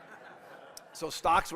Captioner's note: audience laughing